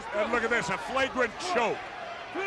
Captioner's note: crowd cheering